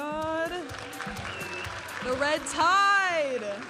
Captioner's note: audience applauding and cheering